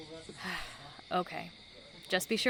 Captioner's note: sigh